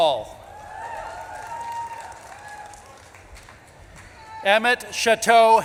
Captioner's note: audience claps and cheers